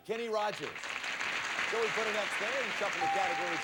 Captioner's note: audience applauding